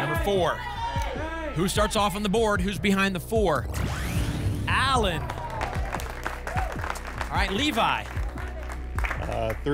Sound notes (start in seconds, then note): 5.0 applause